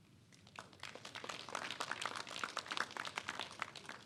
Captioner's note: clapping